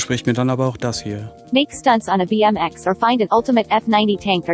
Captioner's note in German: Eine weibliche Computerstimme liest vor